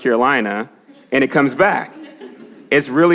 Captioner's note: congregation laughs